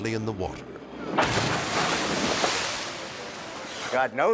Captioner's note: water splashing